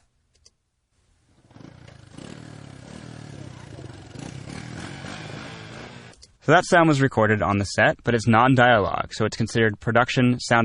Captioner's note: motorcycle revving